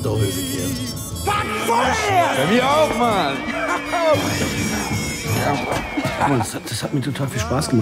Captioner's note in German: Geschrei